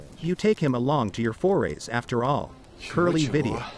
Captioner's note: fire crackling